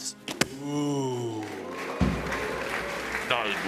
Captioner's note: audience "oohs"